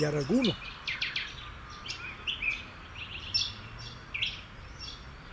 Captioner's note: birds songs